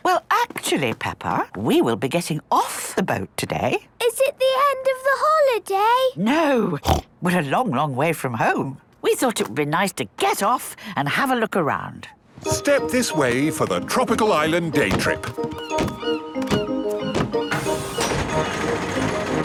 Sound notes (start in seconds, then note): 6.8 snorts; 15.6 gulls squawking